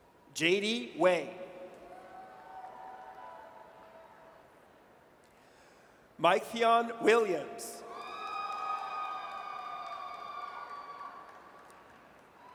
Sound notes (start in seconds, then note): 2.0 audience cheers; 7.9 audience cheers